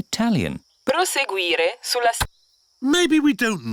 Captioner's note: sat nav talks in italian